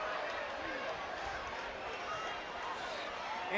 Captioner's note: crowd cheering